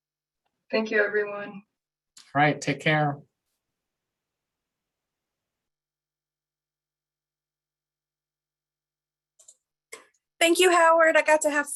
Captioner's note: silence